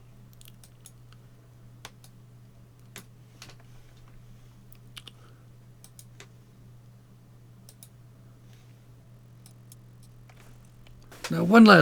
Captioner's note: computer mouse clicking